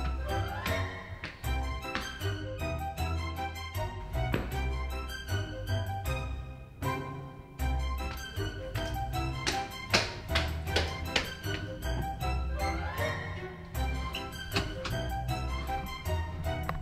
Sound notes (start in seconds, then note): 9.6 stomping